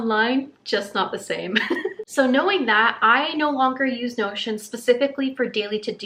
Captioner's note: laughter